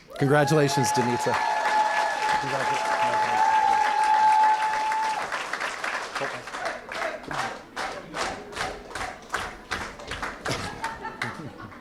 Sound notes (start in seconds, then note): 3.0 cheering & applause